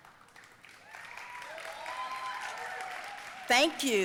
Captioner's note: audience cheering and applauding